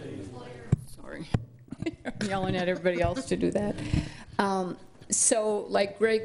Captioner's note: laughs